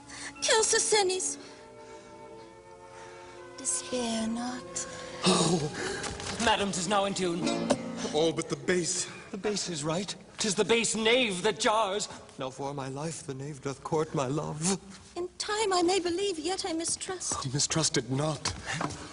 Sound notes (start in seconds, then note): 3.5 Sottovoce